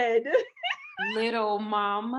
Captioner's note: Peaches laughs